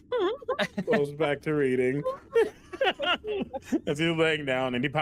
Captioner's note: laughter